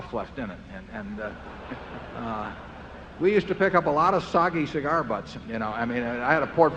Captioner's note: laughter